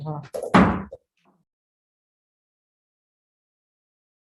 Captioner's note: gavel banging